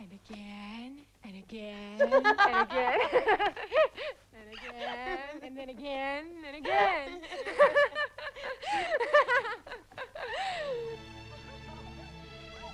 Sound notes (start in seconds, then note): 1.9 Tracima laughing; 7.0 both laughing